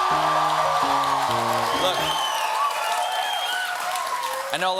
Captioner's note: cheers and applause